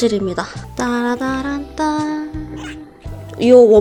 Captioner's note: excited humming